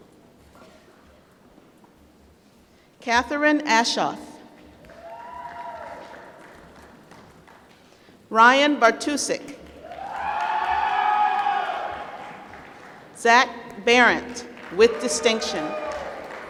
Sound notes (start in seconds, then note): 4.8 applause; 9.6 applause